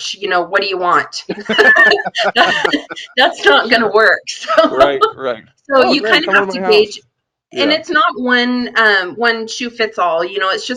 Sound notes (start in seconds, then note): 1.2 laughing